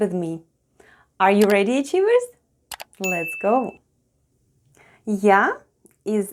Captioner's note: click & ding sounds